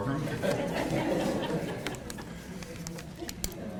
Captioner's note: attendees laugh